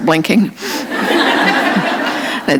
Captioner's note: laughter